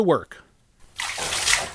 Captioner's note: water splashing